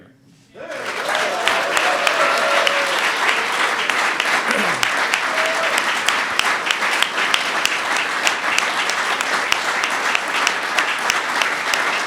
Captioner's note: applause